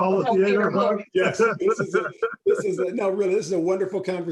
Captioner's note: laughing